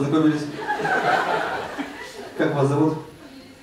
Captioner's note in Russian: зрительский смех